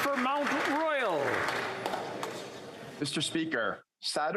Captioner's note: applause